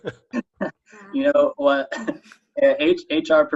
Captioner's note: chuckle